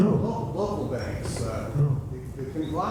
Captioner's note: voiceover